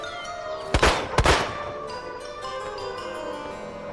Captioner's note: gunshots popping